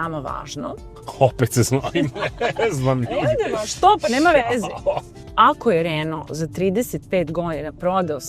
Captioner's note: laughs